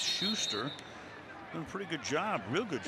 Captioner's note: whistle blows